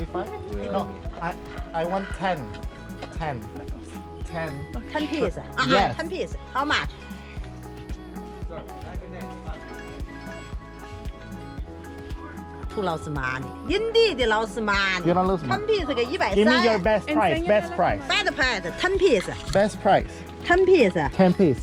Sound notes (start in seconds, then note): 13.7 speaking foreign language